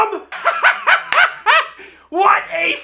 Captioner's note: laughs